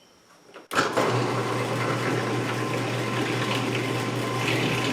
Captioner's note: machine humming